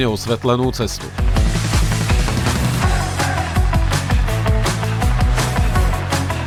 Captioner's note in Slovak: Potlesk